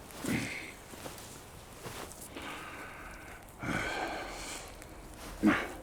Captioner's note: fire crackling; soft music